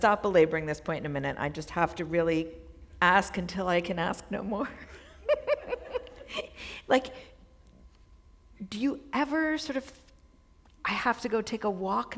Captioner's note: chuckle